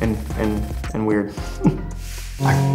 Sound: laughs

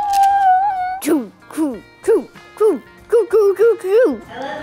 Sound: playful noises

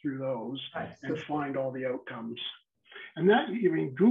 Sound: faintly speaking

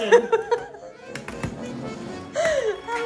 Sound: laughs

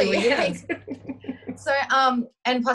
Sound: laughing

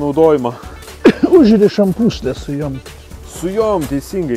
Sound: coughs

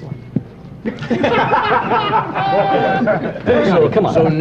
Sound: laughter

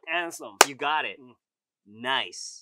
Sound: claps

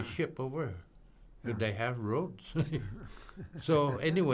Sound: laughing

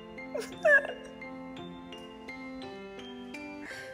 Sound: poignant music continues; Hannah sobbing

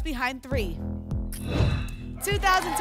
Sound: whoosh

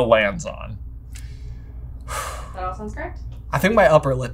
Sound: exhales

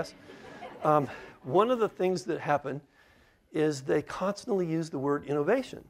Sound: laughter

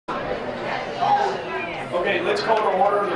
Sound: background chattering

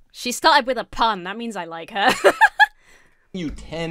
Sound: laughs

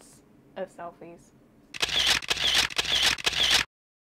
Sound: sound of camera flashing

